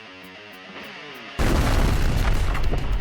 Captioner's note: explosion